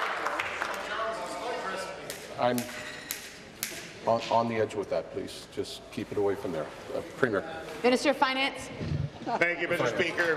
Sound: applause

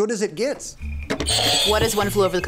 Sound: buzzer rings

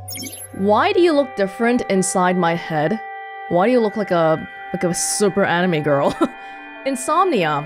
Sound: chuckles

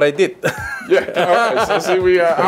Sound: laughs

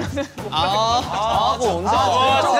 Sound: members started booing

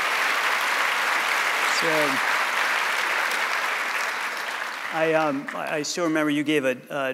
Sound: applause

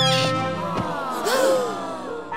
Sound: gasping

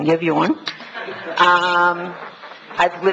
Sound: laughs

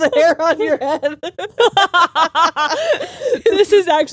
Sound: both laughing

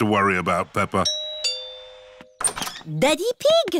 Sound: doorbell rings

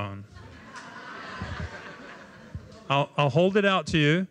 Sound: laughter

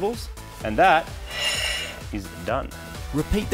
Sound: grinding; voiceover

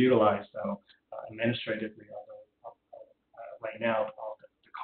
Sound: audio drop

